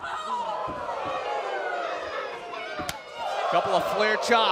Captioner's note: cheers & applause